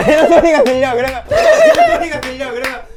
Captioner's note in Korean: 자는 사이에 들리던 기합 소리